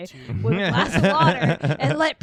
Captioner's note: laughing